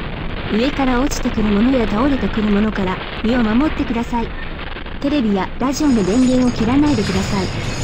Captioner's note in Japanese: ラジオ